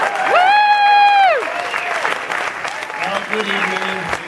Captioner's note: cheering and applauding